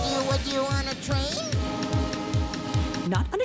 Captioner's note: train horn blowing